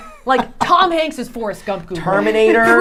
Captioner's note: laughing